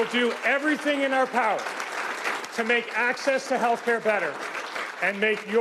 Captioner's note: cheers and Applause